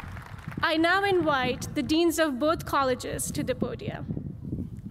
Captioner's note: cheers and applause